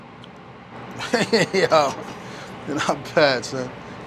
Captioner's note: laughing